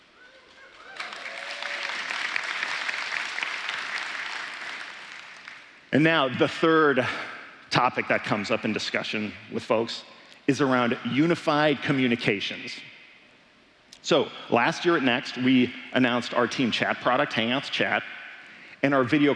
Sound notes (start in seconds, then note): 0.6 applause